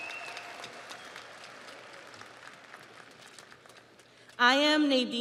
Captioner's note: audience cheers; audience applauds